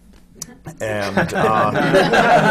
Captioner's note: laughter